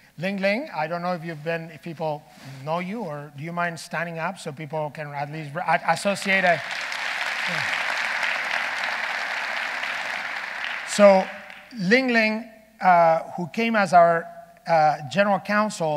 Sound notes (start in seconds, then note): 5.9 audience applauding